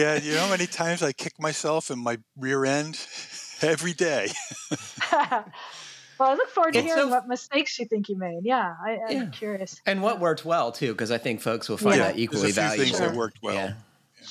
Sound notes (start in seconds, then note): 2.9 laughs